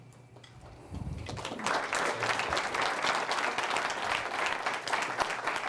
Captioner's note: audience applauds